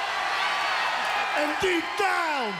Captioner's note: crowd cheering